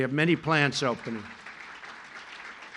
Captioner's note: applause